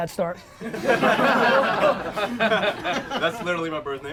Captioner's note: crowd laughs